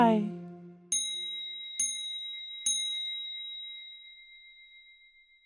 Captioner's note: dinging